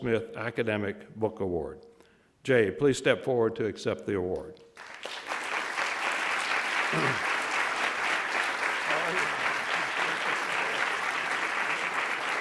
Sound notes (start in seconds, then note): 4.7 audience applauds